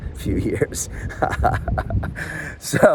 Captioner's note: laughing